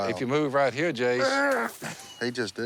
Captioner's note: throws up